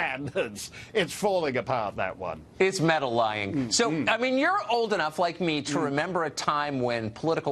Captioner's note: laughs